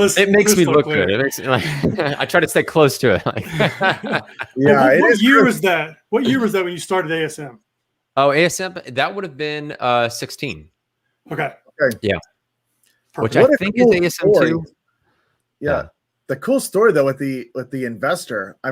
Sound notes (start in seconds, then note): 3.0 all laugh